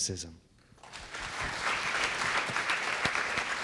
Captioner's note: clapping